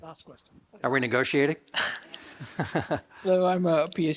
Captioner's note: laughs